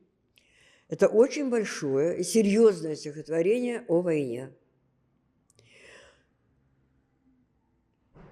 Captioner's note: gasping